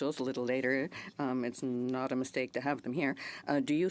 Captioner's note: speaking French